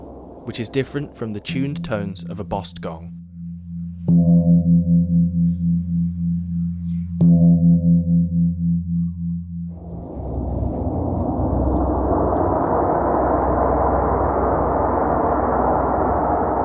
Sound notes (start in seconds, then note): 3.9 gong sounds